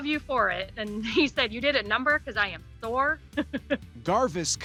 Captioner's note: laughs